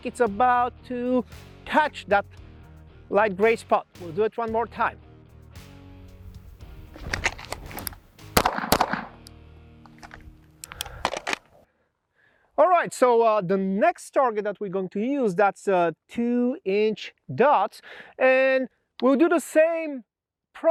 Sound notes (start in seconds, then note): 6.9 holster rattles; 8.5 gun popping; 10.6 holster clicks